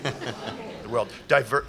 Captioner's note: laughter